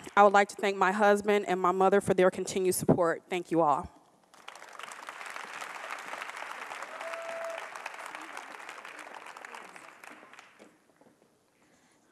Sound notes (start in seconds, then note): 4.2 applause